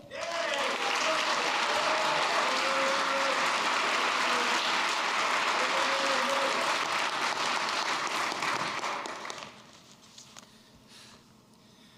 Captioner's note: applause